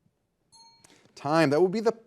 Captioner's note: bell dings